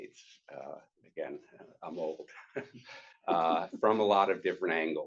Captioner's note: chuckles